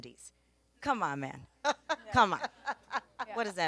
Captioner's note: laughs